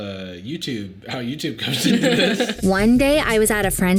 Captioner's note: both laughing